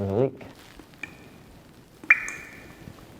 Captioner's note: dripping Water